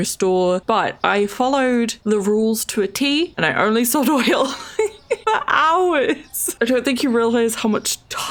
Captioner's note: laughs